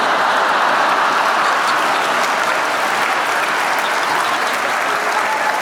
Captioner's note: laughter, applause